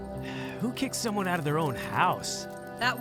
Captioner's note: sighs